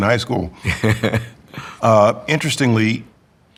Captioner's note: laughs